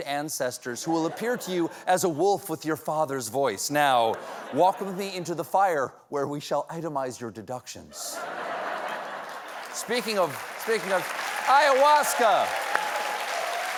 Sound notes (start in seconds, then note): 4.1 laughter; 8.7 applause